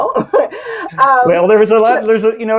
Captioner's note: chuckles